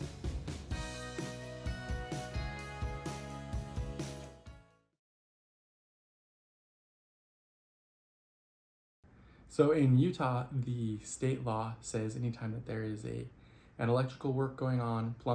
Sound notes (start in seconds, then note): 0.0 upbeat music; 4.8 music stops